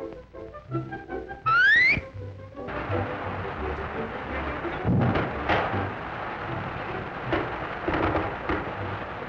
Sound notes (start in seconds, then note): 4.9 thumps and thuds